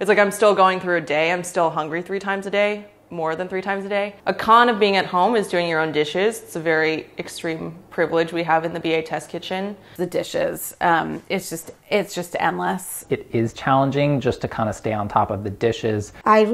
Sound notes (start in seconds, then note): none